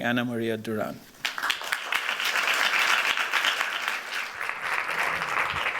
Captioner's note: applause